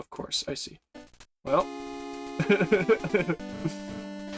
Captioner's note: chuckles